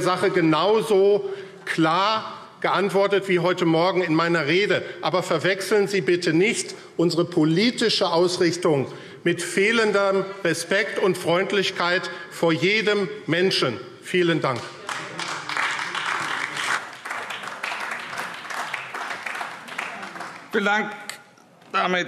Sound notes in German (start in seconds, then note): 14.4 Beifall AfD